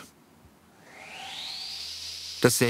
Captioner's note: high whirring